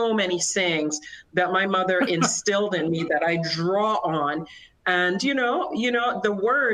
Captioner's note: laughter